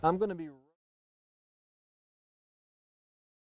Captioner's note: voice fades